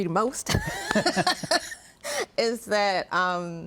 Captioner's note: laughs